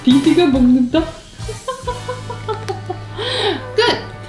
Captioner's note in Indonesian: tertawa